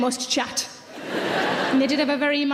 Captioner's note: audience laughing